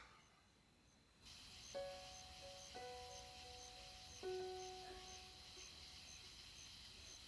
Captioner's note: crickets chirping; calm piano music